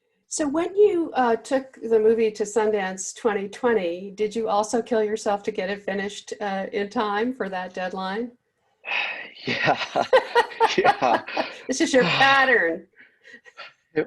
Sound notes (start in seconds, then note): 8.9 sighs; 9.4 laughter